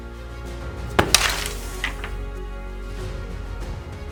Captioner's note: thump and fluttering crash